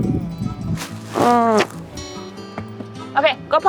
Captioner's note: kissing